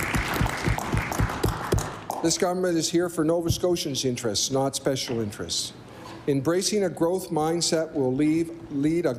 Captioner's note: applause